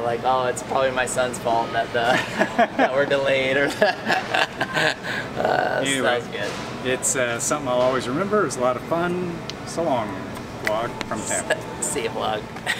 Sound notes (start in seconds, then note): 3.6 laughter